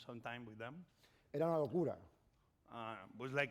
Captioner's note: speaking spanish